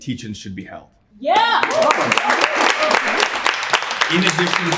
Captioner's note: cheering